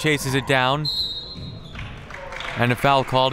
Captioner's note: whistle